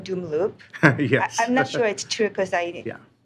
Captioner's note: laughter